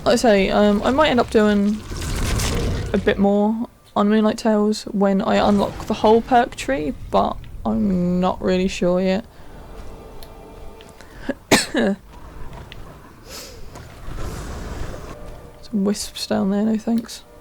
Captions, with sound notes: Like I say, uhm, I might end up doing a bit more on moonlight tales when I unlock the whole perk tree but I'm not really sure yet *cough* Some wisps down there, no thanks